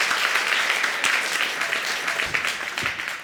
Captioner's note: audience applauding